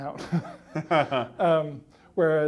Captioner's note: laughter